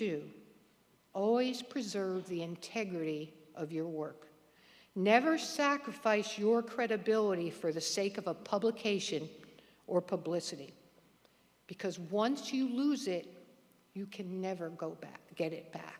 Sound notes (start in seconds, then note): none